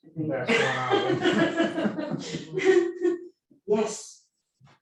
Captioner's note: audience laughing